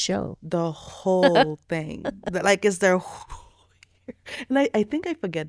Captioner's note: laughing